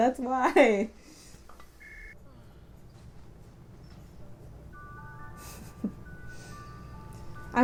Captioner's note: long pause